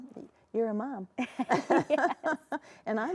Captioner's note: both laugh